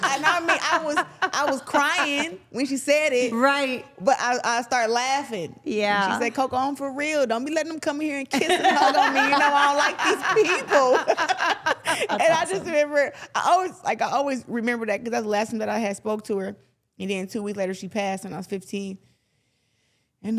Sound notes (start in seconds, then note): 0.0 everyone laughing; 8.4 everyone laughs